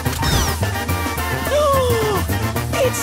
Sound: gasping

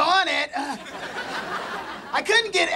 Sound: laughing

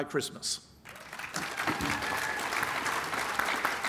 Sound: applause

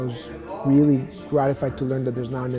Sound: chatter

